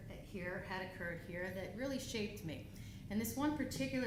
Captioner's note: none